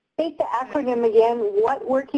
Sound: pat

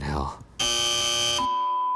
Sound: buzzer noise

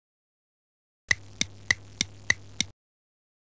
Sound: tic toc sound

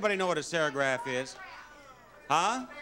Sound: audience member shouting

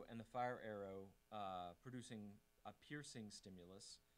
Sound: none

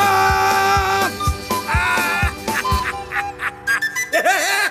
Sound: <i> captain laughs</i>

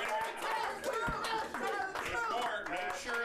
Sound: audience cheers

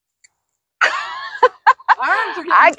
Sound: laughing

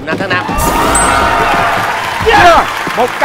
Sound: clapping

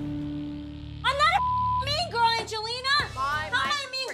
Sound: yelling; beep

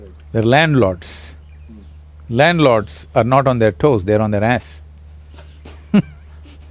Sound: laughs

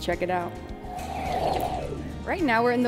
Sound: air whooshing

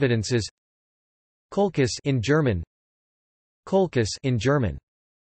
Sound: in German

